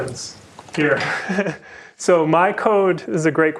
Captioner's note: laughter